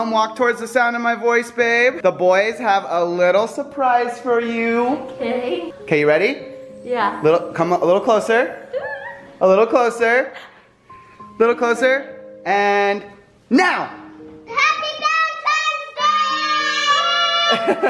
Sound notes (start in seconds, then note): 8.7 squeals excitedly; 17.4 man laughs